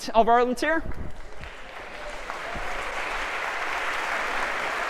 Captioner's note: applause